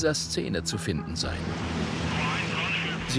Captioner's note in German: Funksprüche im Hintergrund